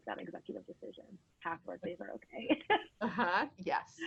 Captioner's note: laughs